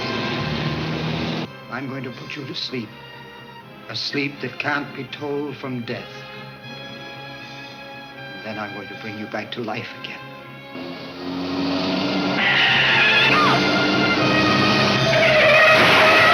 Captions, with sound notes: I'm going to put you to sleep, a sleep that can't be told from death. Then I'm going to bring you back to life again. (car tires screech)